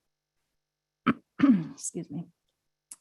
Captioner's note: clears throat